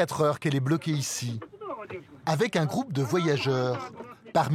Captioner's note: foreign spoken audio